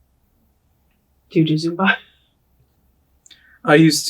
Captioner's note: chuckles